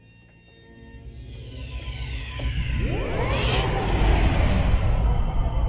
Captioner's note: electricity buzzing